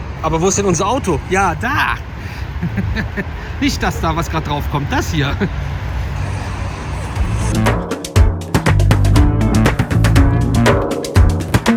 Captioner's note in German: gelächter